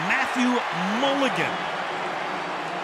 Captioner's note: cheering; pa announcement